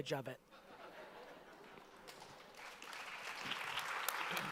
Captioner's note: audience laughter and applause